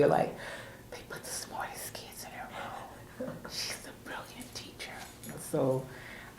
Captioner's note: whispers